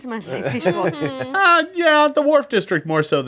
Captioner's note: group laughs